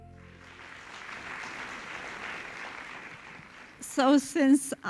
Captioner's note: applauding